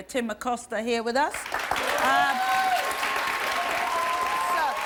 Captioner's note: audience applauds